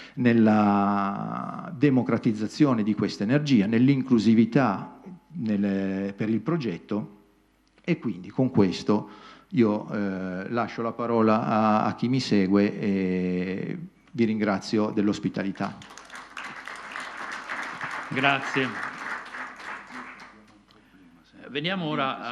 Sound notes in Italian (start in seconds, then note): 15.6 Applauso